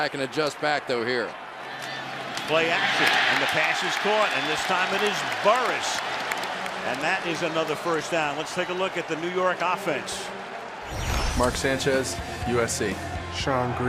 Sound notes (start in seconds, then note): 6.4 cheering